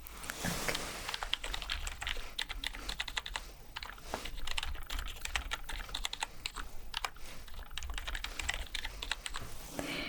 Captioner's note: typing sounds